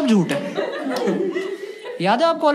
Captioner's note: laughs